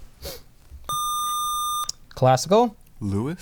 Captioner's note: buzzer